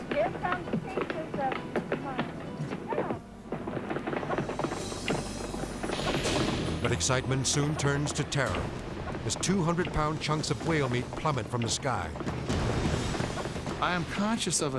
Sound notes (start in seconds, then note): 1.2 blubber pounding; 4.0 blubber pounding; 12.7 blubber pounding